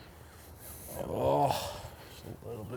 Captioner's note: groans